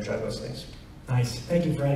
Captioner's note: none